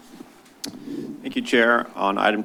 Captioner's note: clucks